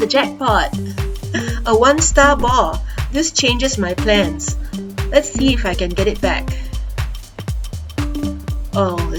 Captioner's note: chuckles